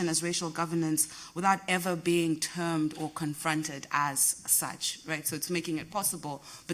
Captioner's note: none